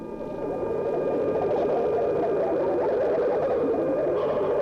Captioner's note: eerie warbling